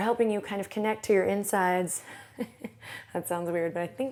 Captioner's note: laughs